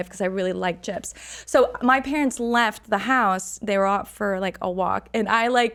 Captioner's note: none